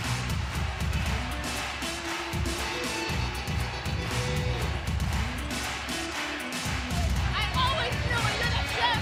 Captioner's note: crowd cheering